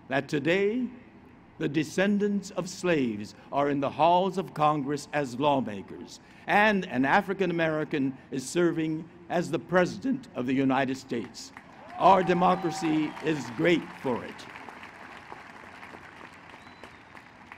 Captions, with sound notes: that the today the descendents are slaves are in the halls of Congress as lawmakers, and an African American is serving as the President of the United States [applause]. Our democracy is great for it.